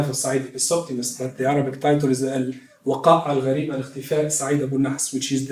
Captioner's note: non-english speech